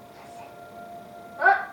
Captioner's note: siren